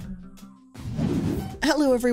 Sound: wind whooshing

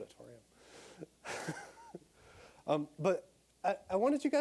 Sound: laughing

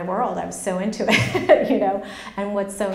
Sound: laughs

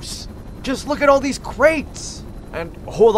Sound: distant helicopter

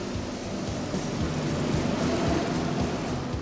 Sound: karts rattle

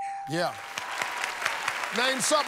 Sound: cheers and applause

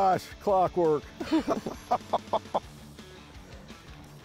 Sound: laughs

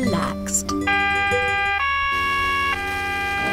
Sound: police siren

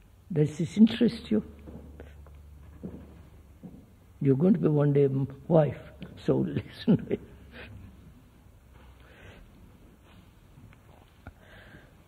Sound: laughs

